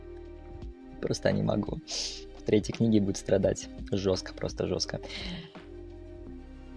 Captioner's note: sigh